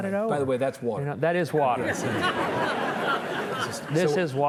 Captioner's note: audience chuckling